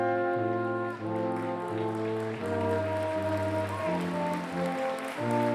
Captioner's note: applause